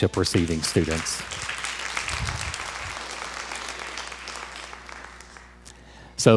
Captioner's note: crowd applause